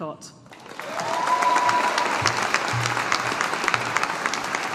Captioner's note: audience applauding